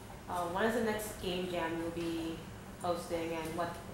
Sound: voiceover

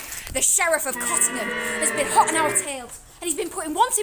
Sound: boo!

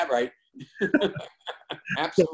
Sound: laughter

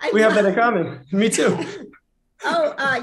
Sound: laughter

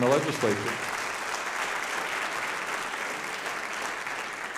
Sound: audience applauding

